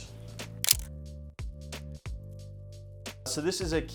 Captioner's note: camera shutter clicks